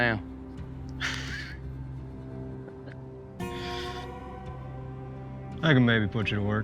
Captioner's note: chuckles